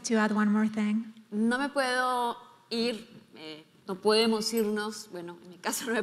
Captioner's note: speaking in foreign language